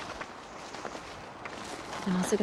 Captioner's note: footsteps crunching